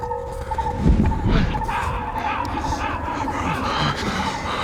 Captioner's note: large distant wings; multiple crows; Sam panting